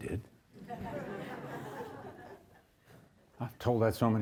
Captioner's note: audience chuckles; audience laughs